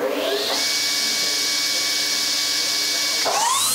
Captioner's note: high-pitched whirring sound